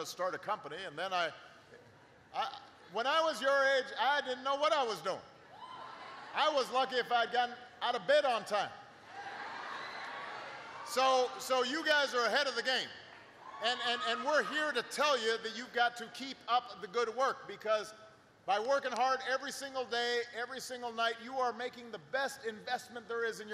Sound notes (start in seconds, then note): 10.0 laughter